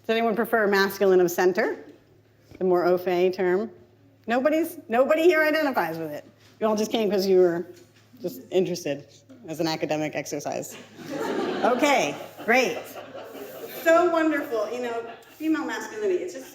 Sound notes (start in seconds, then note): 10.8 audience laughs